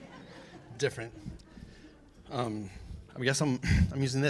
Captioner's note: laughter